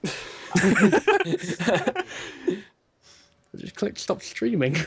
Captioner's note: laughter